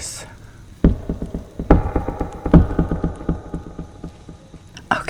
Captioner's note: three knocks